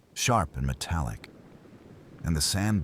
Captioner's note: wind Blowing